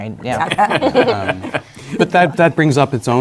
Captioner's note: laughter